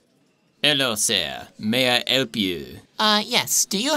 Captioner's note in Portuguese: Sotaque francês